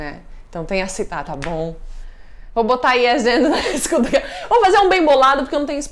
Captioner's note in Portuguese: risos